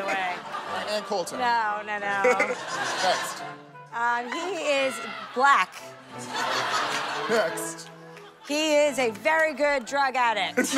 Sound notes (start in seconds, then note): 6.2 laughter